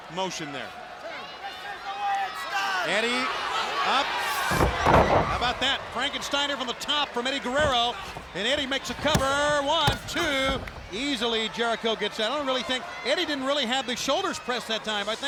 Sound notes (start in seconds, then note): 4.4 body thudding; 10.0 hand thudding